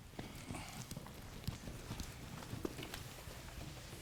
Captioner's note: footsteps approaching